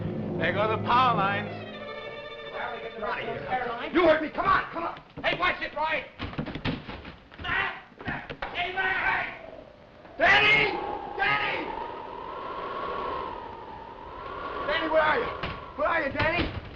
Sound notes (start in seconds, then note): 12.4 wind howling